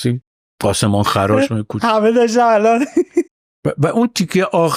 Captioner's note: laughs